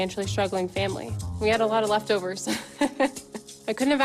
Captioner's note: chuckles